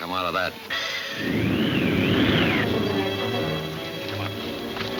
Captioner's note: wind whooshing